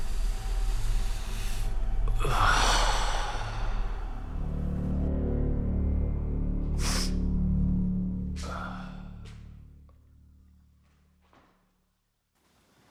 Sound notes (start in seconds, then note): 2.1 Danny sighs; 4.6 light dramatic music